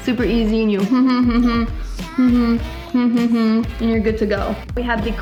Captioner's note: humming